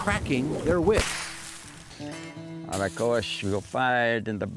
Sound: sound of whip being cracked!

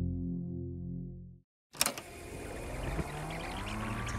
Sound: tape clicks and whirs

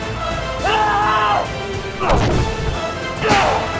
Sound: shouts

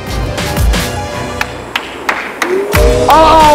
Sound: clapping

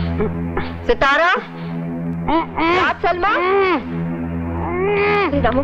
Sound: muffled moaning

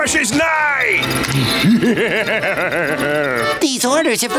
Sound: laughing

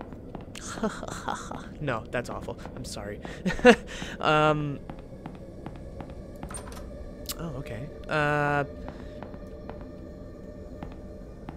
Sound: fake laughing

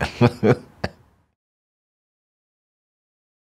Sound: laughs

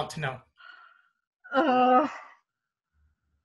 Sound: Harper groans

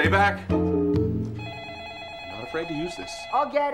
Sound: phone rings

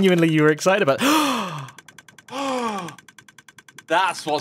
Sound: gasps

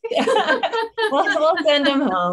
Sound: laughter

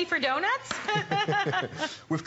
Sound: laughter

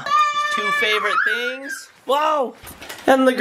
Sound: shouting

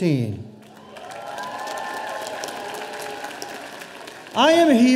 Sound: audience cheering

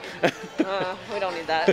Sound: laughing

